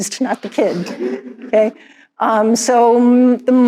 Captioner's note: all chuckles